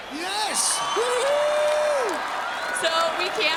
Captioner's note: crowd applauds